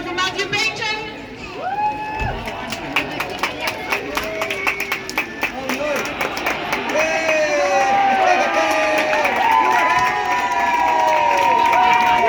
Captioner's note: applause and cheering